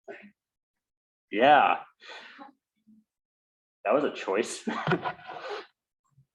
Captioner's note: laughs